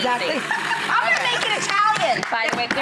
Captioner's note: laughing; clapping